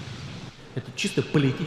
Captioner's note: Putin speaking Russian